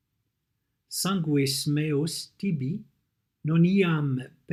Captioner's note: reading the text in Latin